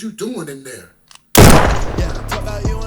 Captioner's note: gun shoots